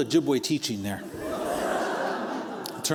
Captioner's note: laughter